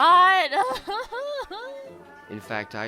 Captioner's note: amanda cries dramatically